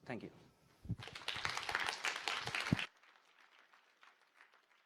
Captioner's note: applause